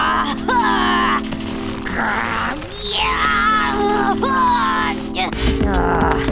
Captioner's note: intense grunting